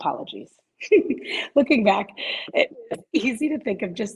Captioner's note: laughs